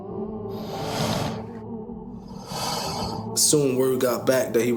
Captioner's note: swooshing